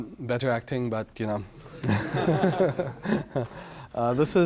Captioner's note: audience laughter